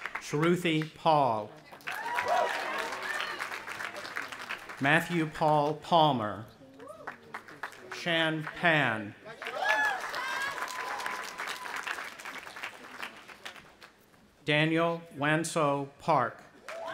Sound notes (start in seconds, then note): 0.0 audience applauding and cheering; 1.7 audience applauding and cheering; 6.8 audience applauding; 9.3 cheering